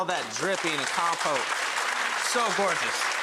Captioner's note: audience applause